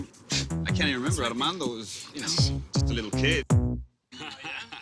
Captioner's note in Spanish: Risas